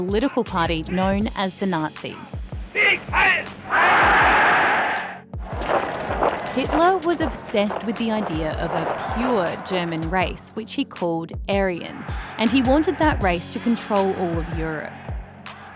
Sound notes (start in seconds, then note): 3.9 shout; 5.4 footsteps